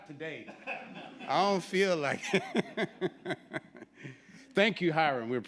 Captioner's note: laughs